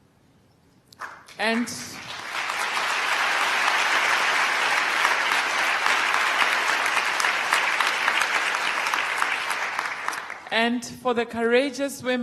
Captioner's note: applause